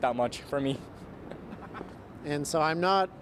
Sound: laughs

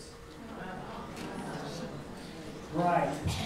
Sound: audience sighing

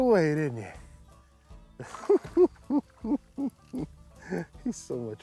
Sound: laughing

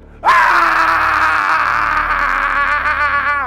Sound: screaming

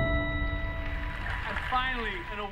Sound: tv playing

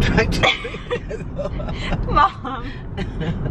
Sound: laughing

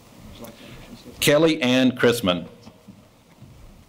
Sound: speaking faintly

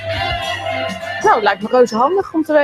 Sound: speaking dutch

